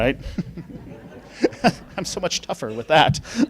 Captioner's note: laughing